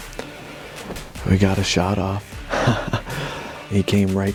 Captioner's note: chuckles